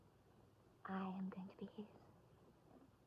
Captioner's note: none